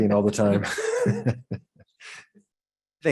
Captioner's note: laughs